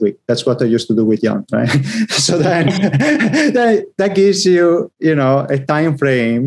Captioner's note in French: rires